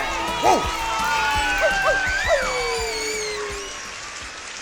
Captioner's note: cheering